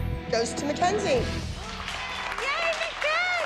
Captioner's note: cheering